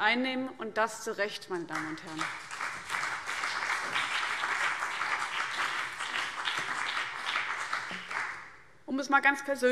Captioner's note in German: Beifall CDU und BÜNDNIS 90/DIE GRÜNEN